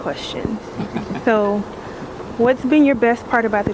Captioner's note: group laughs